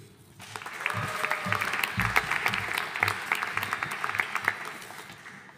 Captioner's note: audience applauding